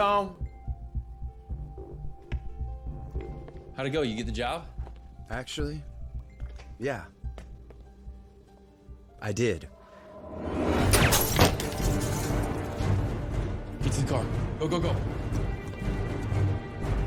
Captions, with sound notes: How'd it go? You get the job? Actually, yeah. I did. [gunshots, glass shattering] Get to the car. Go, go, go. [intense music]